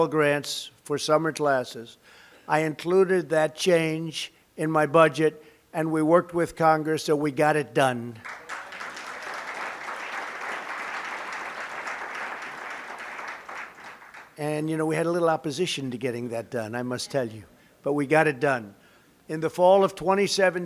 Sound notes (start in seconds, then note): 8.2 applause